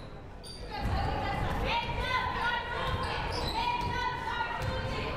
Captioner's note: crowd murmuring